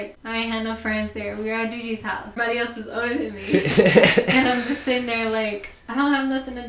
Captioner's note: laughter